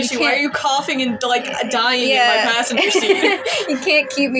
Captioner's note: laugh; chuckle